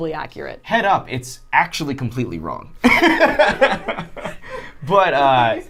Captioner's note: laughing